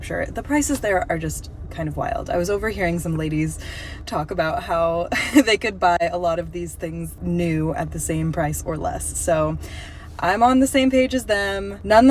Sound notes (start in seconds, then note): 4.7 laugh